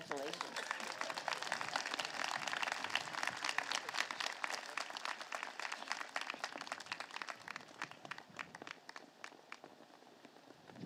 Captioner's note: applause